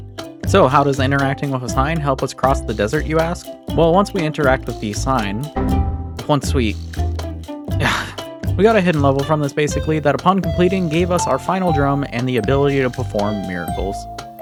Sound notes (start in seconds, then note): 5.6 error noise; 7.8 aggravated sigh